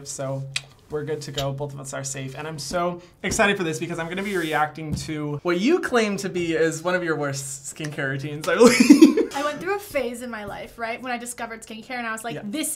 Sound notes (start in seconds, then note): 8.6 laughing